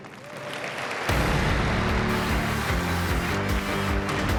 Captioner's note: applause